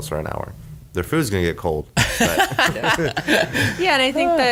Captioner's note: laughs